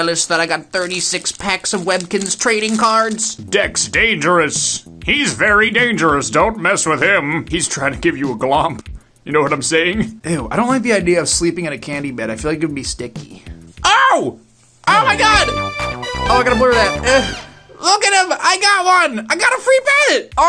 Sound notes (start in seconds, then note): 3.5 kids sci-fi narrator voice